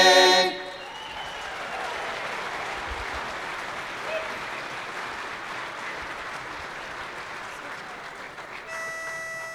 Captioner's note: applause